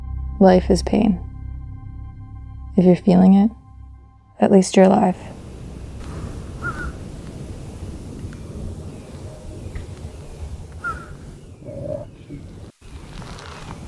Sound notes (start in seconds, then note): 6.8 bird cawing